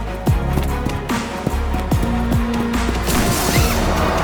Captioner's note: bright music; feet thumping; zip hissing; bright music